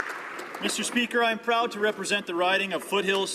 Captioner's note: some Applause